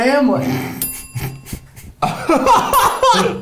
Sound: sniggering; laughing; bell rings

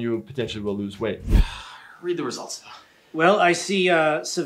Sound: breathing deeply

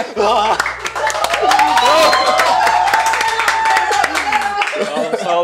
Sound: cheers

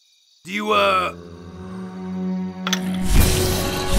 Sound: zombie moans

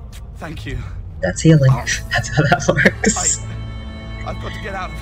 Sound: laughter

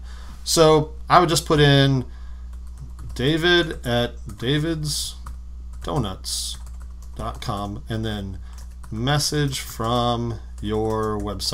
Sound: typing

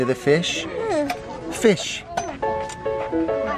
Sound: baby wailing

